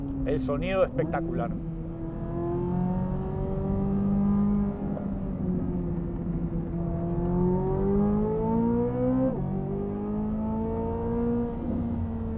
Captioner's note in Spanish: Sonido del motor